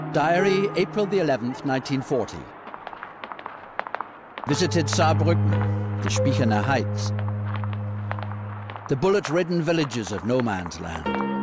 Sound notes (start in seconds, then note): 6.3 speaking in German